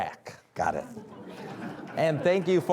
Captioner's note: audience laughing